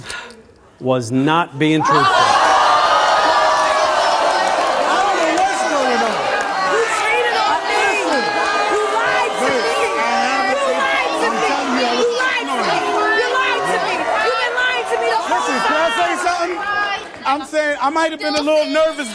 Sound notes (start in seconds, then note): 2.3 audience exclaims in disbelief